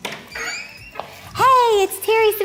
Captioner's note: upbeat music; door creaking